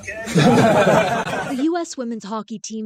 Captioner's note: laughter